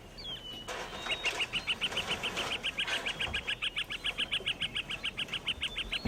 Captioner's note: birds chirping